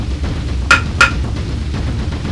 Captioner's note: fight noises